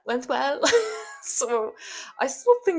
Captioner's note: laughs